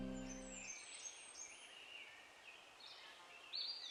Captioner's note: birds chirping